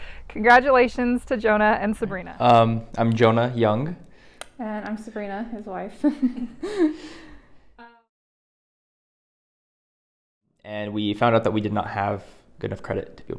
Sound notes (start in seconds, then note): 6.1 both chuckle